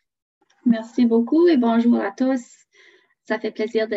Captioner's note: French